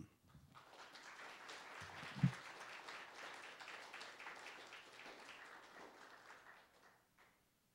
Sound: applause

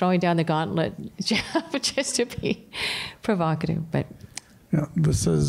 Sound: laughter

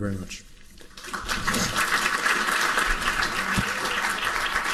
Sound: applauding

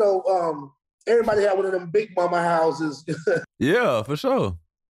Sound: laughs

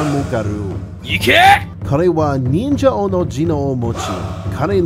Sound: angry bird noises

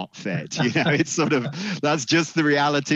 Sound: laughs

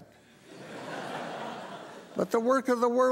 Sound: congregation laughing

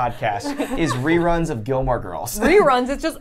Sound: laughs

